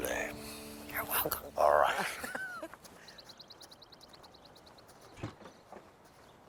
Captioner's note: laughing